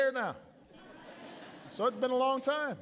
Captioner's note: laughter